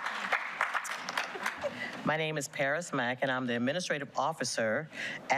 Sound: applause

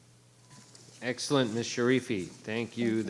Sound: microphone beeping

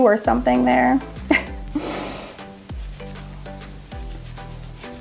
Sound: laughs

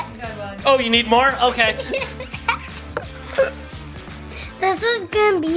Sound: laughing continues

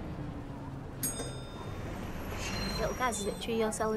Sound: bell rings

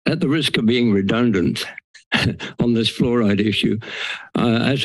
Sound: laughs

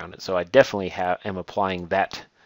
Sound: none

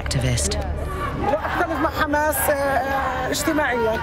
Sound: speaking Arabic

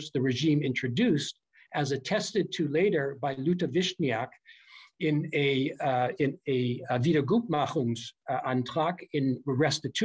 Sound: german

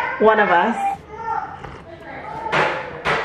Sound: slurps tea; kids playing in the background; light banging

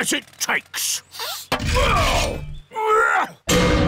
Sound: grunting

